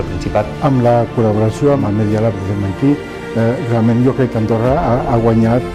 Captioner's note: speaks in foreign language